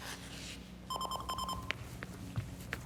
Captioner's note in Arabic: رنين الهاتف